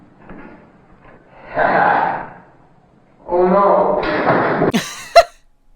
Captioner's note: laughs; shocked laughter